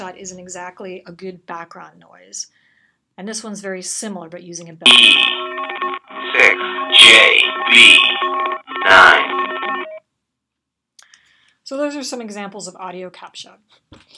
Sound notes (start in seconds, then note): 4.9 audio playing: characters read over the sound of bells